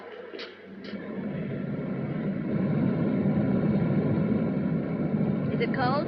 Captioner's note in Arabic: صوت تشغيل المحرك